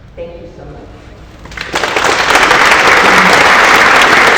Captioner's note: applause